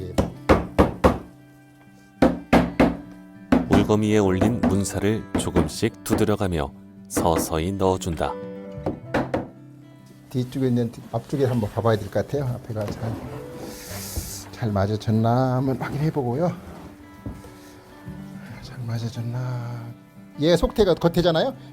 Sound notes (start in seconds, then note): 0.2 hammering sound; 4.7 hammering sound; 7.1 hammering sound; 8.8 hammering sound